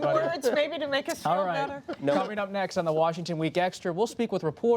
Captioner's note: laughter